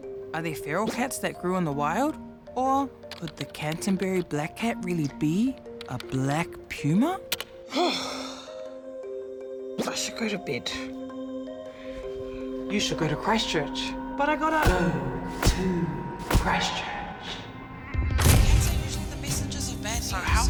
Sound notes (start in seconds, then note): 7.7 sighs deeply